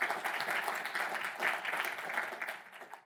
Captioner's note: audience applauding